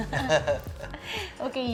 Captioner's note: chuckles